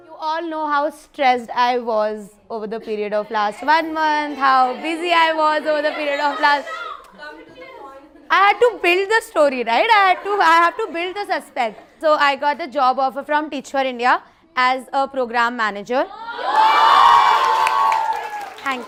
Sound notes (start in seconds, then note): 6.8 shouting; 16.2 cheering; 17.2 claps